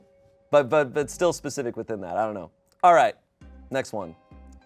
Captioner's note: none